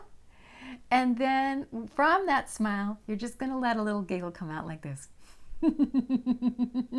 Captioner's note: laugh